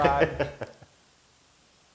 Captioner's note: laugh